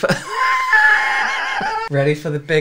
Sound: some Weird Laugh

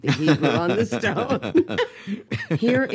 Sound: both laughing

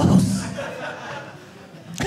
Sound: audience laughing

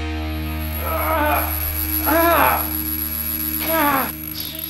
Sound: muffled screaming

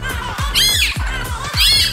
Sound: screaming

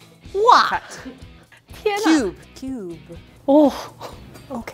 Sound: speaking in mandarin

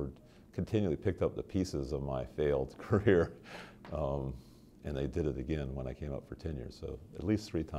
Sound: chuckle

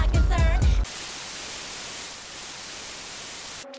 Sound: static

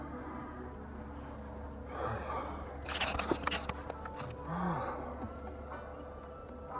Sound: sigh

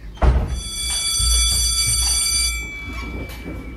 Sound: bell ringing

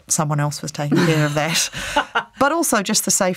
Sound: laughs

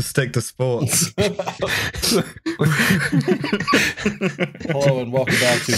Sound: laughter

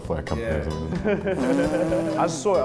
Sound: laughter

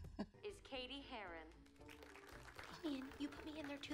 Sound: class clapping

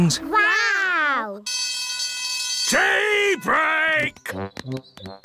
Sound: alarm ringing

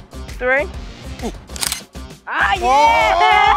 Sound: camera clicks

